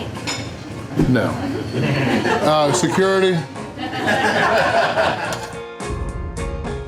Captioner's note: crowd laughter